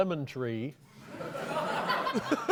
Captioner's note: laughter